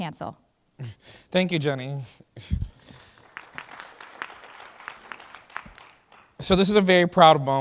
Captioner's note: applause